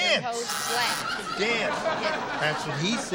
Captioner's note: buzzer